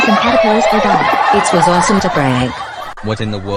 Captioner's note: troublemakers Laughing